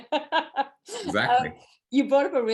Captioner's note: laughs